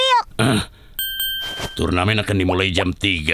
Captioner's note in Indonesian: dinging noises